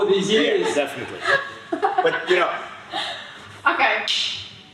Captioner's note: laughing